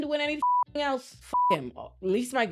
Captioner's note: beep